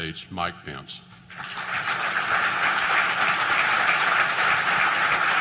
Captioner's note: applause